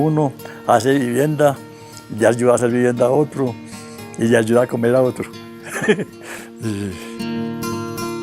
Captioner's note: giggles